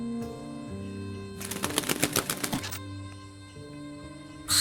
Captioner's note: feathers flapping; bird screeching